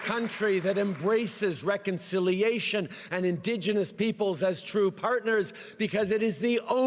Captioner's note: cheering and applause